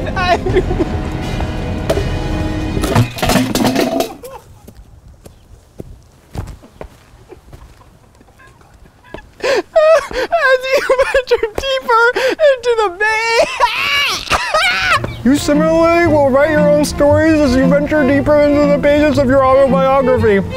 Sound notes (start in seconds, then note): 0.0 dramatic music; 1.7 podium crashing; 10.7 laughing